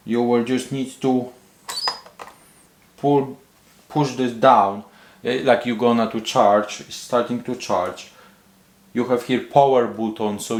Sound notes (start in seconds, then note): 1.6 razor squeaking